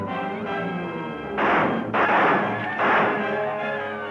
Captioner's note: guns firing